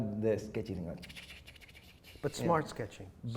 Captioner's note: sketching on paper